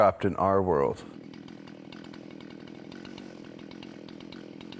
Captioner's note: tool buzzing